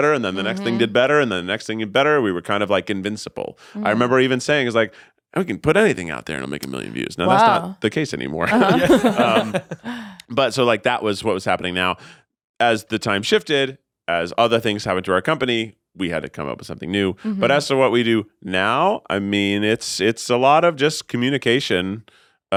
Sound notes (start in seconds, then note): 8.4 all laughing